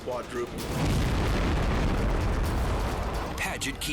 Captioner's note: explosion booming